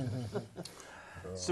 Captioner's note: laugh